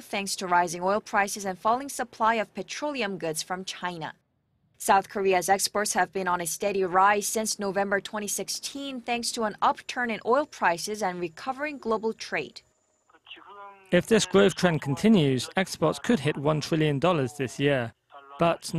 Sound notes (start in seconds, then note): 12.7 Korean